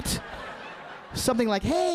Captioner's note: audience laughing